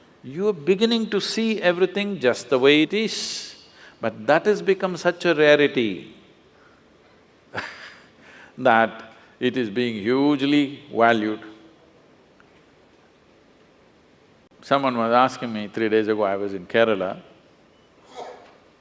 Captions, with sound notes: You’re beginning to see everything just the way it is. But that has become such a rarity (Laughs) that it is being hugely valued. Someone was asking me three days ago I was in Kerala